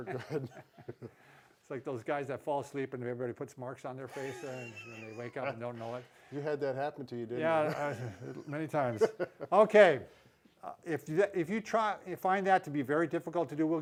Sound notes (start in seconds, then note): 0.0 both laughing; 4.1 laughing; 7.4 laughing